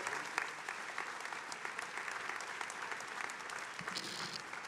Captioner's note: attendees applauding